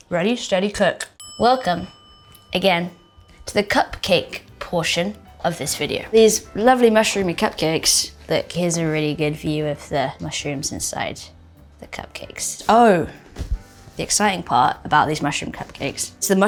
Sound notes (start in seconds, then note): 1.2 bell dinging